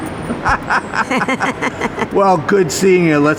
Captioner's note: both laughing